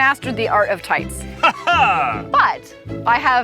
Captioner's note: laughs